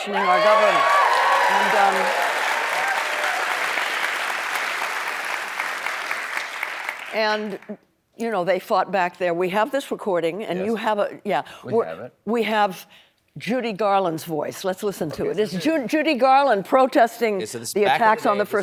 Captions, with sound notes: PETITIONING OUR GOVERNMENT. [APPLAUSE] AND YOU KNOW, THEY FOUGHT BACK THEN. WE HAVE THIS RECORDING. WE HAVE JUDY GARLAND'S VOICE. LET'S LISTEN TO IT. JUDY GARLAND PROTESTING THE ATTACKS ON THE FIRST